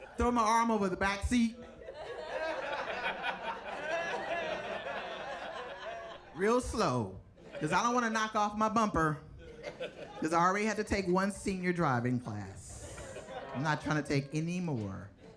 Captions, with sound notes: Throw my arm over the backseat. (audience laughing) Real slow, 'cause I don't wanna knock off my bumper. 'Cause I already had to take one senior driving class. I'm not trying to take any more.